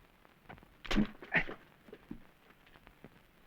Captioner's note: grunts